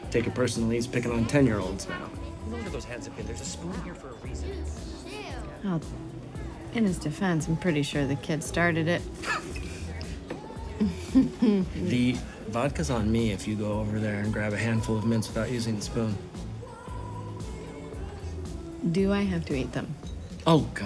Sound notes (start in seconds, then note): 10.6 laughs; 10.7 chuckles